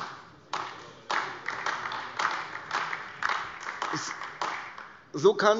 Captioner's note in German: Beifall AfD